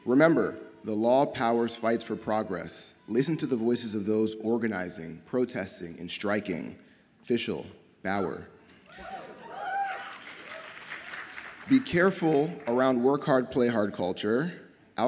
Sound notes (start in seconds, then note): 9.2 audience applauds and cheers